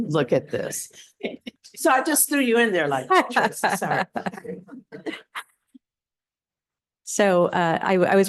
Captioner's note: laughter